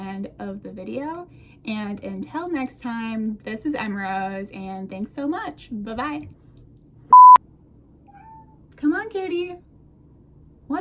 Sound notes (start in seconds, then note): 8.1 baby cat noise